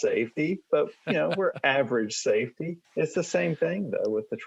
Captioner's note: laughing